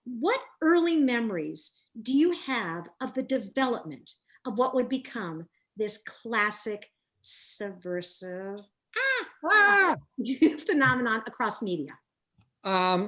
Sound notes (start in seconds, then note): 9.0 laughs